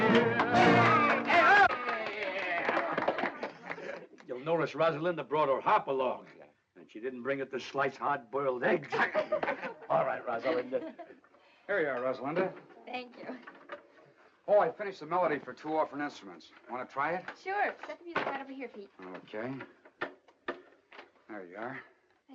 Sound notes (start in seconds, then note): 0.0 clapping and cheering; 8.8 laughing